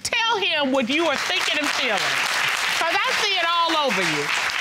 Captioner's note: audience clapping